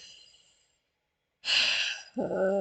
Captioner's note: sigh